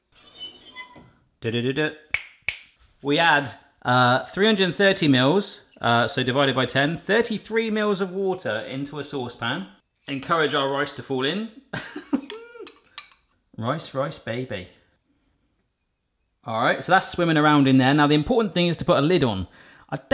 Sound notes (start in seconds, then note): 2.1 fingers snapping; 12.1 laughs